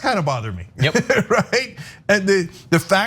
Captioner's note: laugh